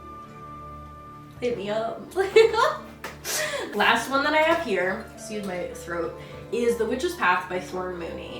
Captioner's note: laughs